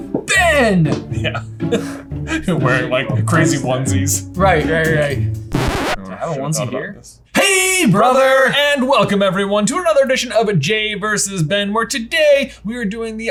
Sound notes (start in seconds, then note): 0.0 laughs; 5.5 record scratching